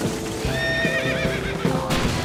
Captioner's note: horse whinnies